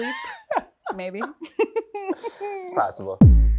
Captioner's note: laughter